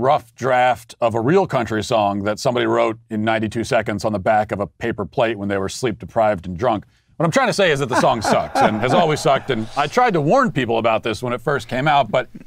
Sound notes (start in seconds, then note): 7.7 laughs